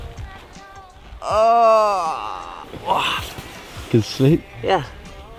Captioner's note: yawning